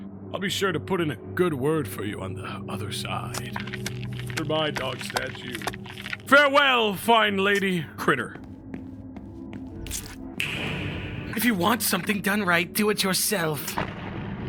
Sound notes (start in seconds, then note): 9.6 bug squishes